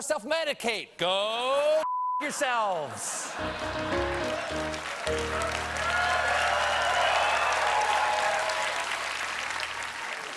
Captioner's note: cheers and applause